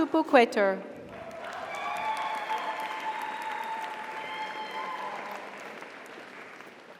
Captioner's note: audience applauds; audience cheers